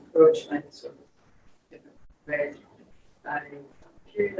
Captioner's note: speaks distorted